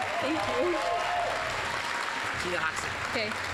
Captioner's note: applause